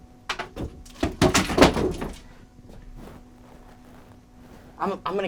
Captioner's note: equipment rattles